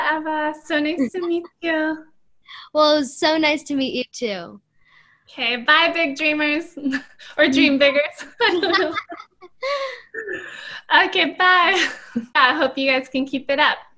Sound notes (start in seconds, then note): 10.8 both Laughing